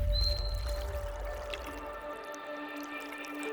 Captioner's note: water gurgling